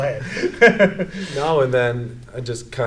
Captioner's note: both laugh